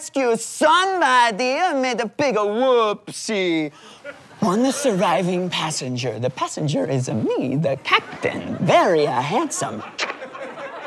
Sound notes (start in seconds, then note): 4.3 quietly